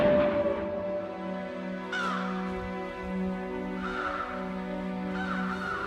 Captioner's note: cawing